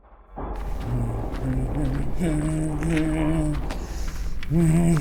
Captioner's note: Pete humming